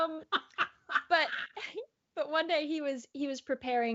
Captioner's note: laughs out loud